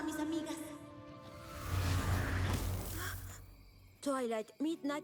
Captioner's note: zap